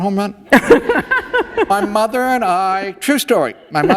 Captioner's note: laughter